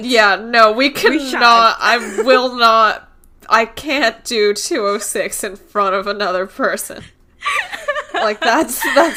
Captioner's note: laughs; laughing